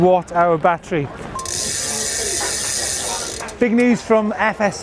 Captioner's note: wheel spinning